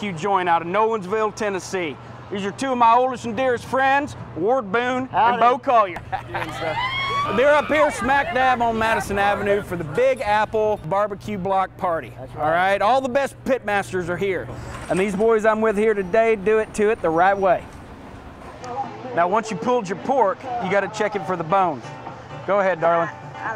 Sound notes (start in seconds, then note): 6.3 cheers